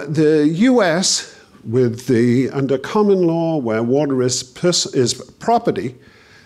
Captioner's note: none